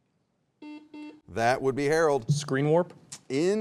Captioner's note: buzzer beeps